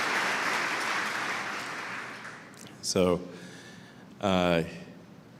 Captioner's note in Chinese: Applause; 鼓掌